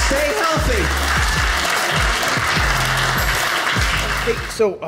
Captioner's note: audience applauding